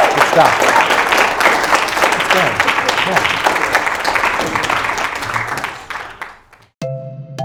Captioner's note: applause and cheering; continued applause